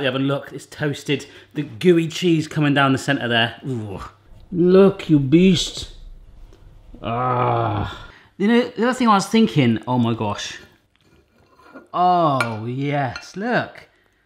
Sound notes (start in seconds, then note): 6.9 grunts